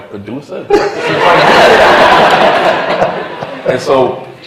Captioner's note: laughter